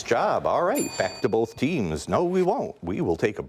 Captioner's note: bell dings